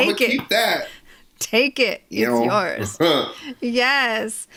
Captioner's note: laughs